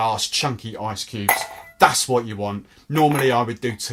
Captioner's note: ice clinks